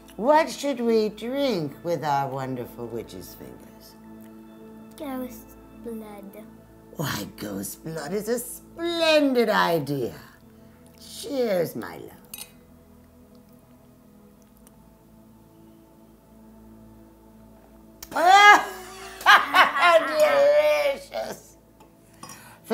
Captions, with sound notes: What should we drink with our wonderful Witch's Fingers? - Ghost's blood. - Why ghost's blood is a splendid idea. Cheers, my love. (clinking) (witchy laughing) Delicious!